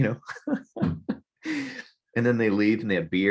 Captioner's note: laughing